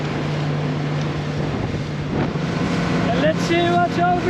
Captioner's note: engine roaring